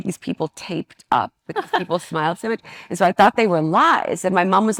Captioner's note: participant laughs